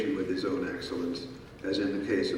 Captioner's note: none